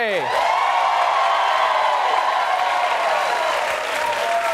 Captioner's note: audience applauding